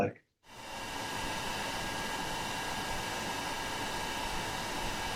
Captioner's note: gpu sound